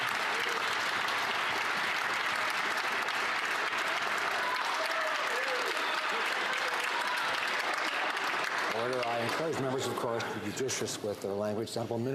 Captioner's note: some Applause